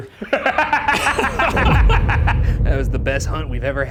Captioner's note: both laughing; laughs